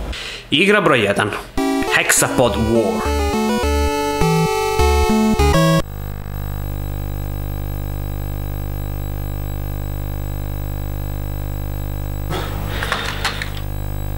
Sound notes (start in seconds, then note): 5.9 quietly humming